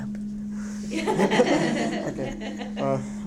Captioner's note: laughter